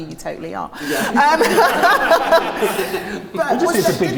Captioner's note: laughing